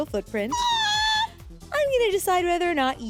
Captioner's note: squeals